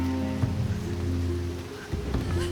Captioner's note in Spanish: Sollozos